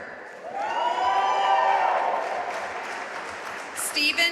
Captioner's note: audience cheering and applauding